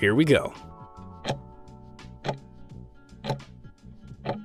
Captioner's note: timer ticking